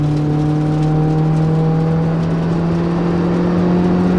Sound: car engine roaring

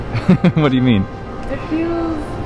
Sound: laughs

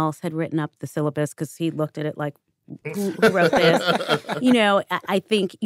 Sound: laughter

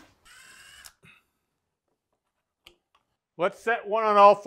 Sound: drill whirring

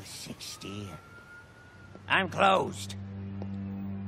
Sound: footsteps

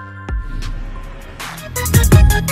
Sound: low whooshing

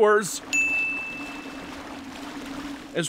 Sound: ding

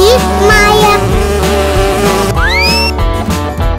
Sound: bee sound

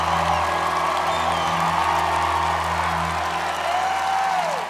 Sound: applause

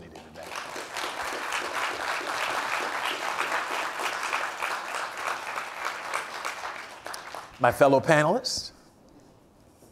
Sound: applause

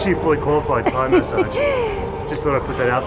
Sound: laughs

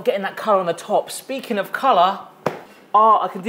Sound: hands thud

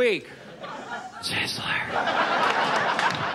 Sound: whispering; audience laughs

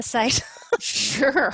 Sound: laughs

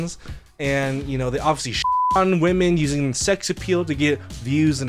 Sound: beep

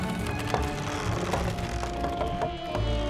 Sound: frame creaks

